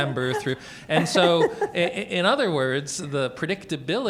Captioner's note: laughs